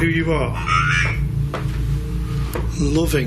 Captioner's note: device vocalising